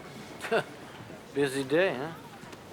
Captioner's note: wry laugh